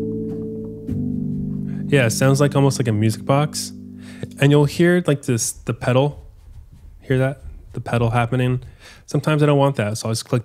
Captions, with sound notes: Yeah. Sounds almost like a music box. And you'll hear like this... the pedal (pedal thuds) Hear that? The pedal happening? Sometimes I don't want that.